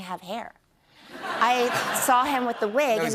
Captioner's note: laughter